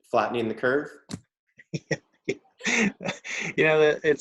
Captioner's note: laughing